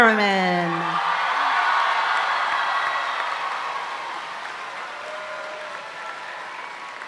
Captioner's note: audience cheering and applauding continues